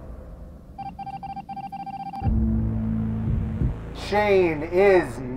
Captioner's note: machine beeping